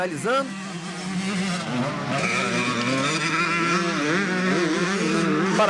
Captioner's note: engines